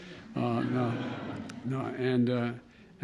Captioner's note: laughter